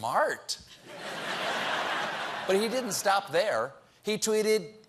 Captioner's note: laughter